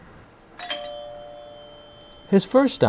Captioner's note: doorbell rings